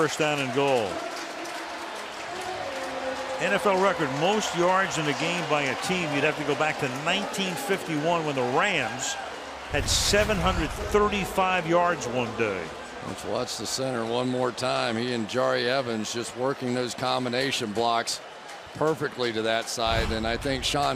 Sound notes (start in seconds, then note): 1.8 pa announcement